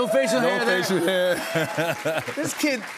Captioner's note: laughs